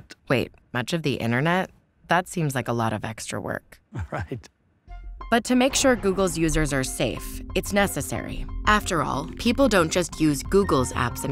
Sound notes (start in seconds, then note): 3.9 laughs